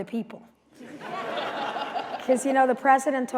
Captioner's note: laughter